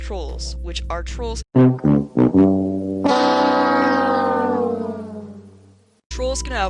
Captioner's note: The Price Is Right losing trumpet sound effect